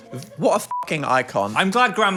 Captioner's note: beep